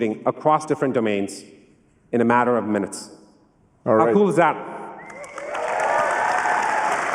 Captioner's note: cheering and applause